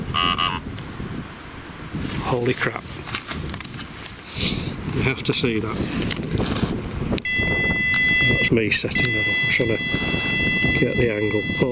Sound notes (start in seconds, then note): 0.1 Ovilus makes sound like "Paul"; 7.2 Ovilus beeps